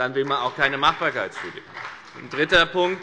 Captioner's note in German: Beifall bei der FDP und der CDU